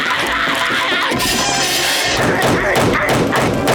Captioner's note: screeching